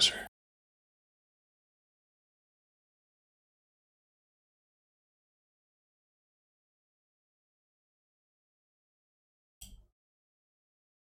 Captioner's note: blank Audio